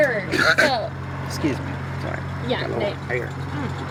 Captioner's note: coughs